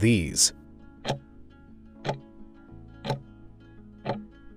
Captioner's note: timer ticking